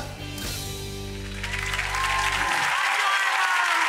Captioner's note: audience cheering